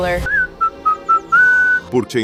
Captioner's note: whistling